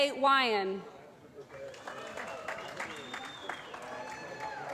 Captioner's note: applause